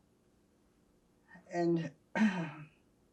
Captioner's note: clears throat; pauses 11 seconds